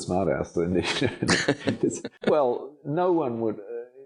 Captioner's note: laughing